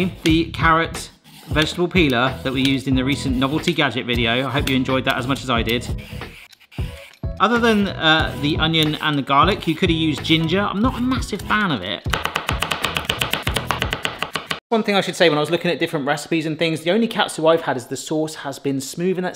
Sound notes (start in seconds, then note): 5.9 peeler scraping; 12.0 knife chopping